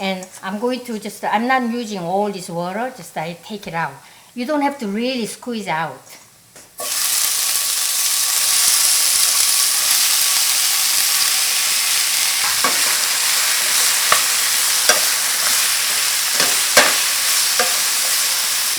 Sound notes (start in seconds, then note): 7.9 louder sizzling